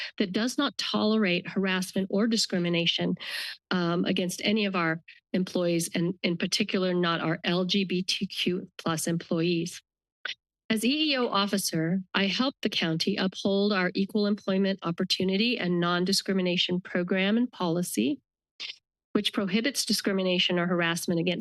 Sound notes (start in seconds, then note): none